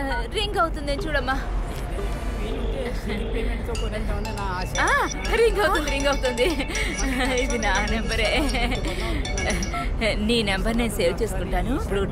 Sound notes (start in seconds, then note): 4.1 phone rings